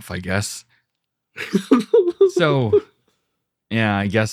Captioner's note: laughing